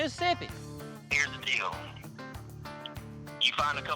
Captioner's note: on phone